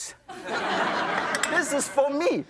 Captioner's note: audience laughs